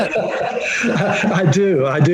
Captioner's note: laughing